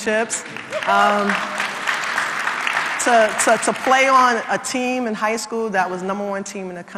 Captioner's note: applause